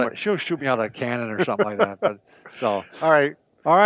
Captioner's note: laughs